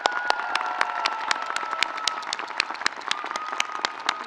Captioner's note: audience cheering